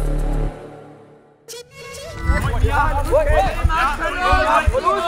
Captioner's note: shouts